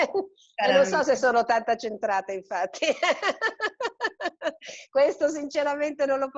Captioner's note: laughter